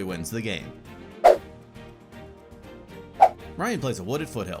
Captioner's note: logo whooshes